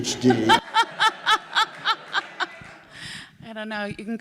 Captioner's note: laughs